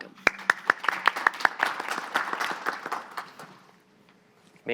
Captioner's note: audience applauding